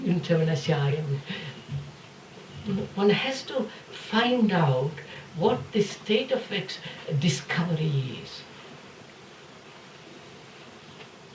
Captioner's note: italian 09:39